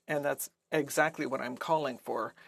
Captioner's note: speaking French